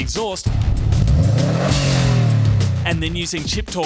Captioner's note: engine revs